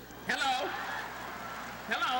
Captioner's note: applause